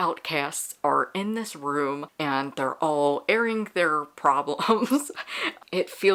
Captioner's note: laughs